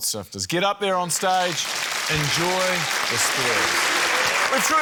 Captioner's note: cheering, applause